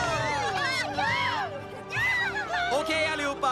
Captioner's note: all cheering